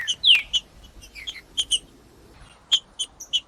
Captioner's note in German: trinca ferro cantando